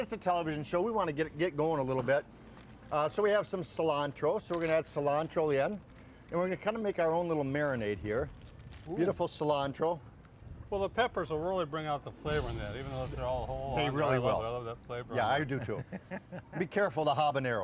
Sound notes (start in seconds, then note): 15.5 laughing